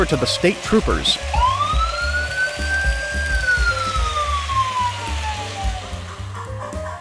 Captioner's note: police siren